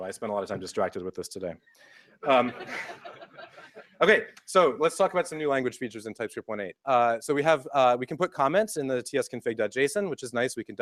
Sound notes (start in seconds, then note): 2.2 laughter